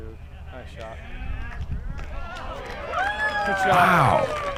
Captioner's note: cheering